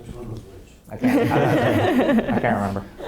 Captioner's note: laughing